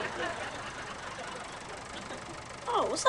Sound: motor running

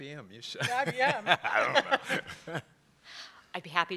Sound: laugh

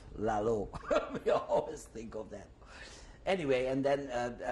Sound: laughs

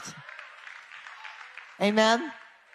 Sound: audience claps

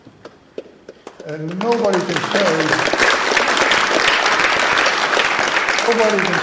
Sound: applause

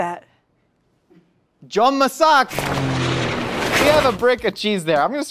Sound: speaking in foreign language

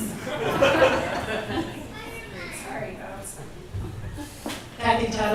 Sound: audience laughs

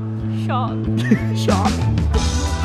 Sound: chuckling

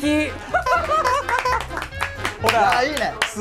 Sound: hahaha

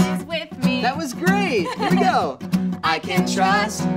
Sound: laughs

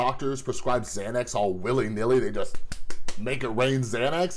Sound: claps hands

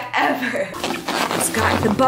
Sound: bubble wrap squishing

